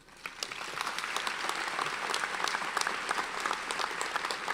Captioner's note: audience applauds